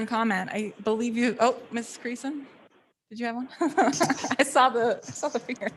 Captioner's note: laughs